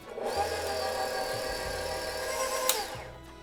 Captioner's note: mixer burrs